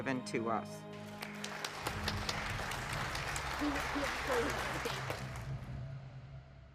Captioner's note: applause